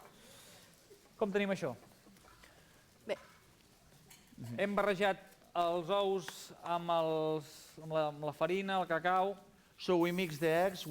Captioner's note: non-english speech